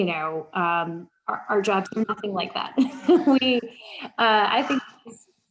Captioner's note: laughs